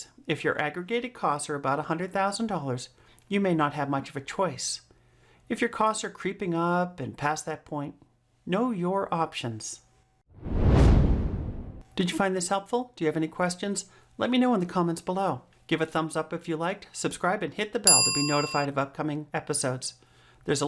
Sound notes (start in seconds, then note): 10.4 air whooshing